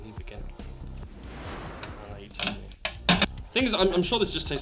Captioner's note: woosh